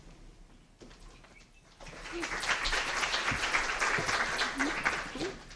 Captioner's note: applause